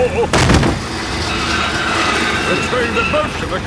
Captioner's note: thud